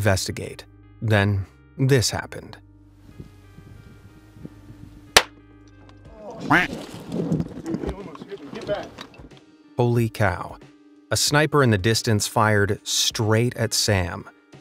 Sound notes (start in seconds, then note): 5.2 gunshot pops; 6.4 narrator quacks